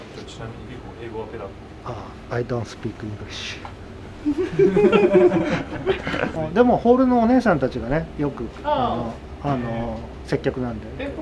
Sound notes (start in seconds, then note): 4.2 laughter